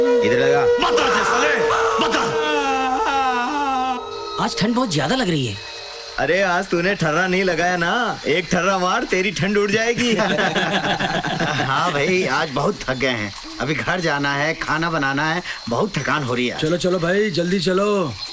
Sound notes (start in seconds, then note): 9.8 Laughs